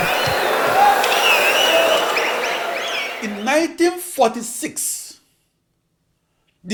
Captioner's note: wild applause and cheering for 22 seconds